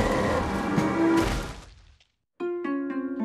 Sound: roaring

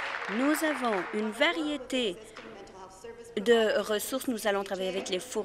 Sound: applause

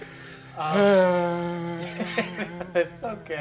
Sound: whimpering

